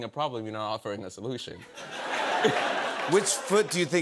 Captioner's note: laughter